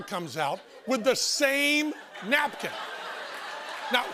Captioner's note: laughter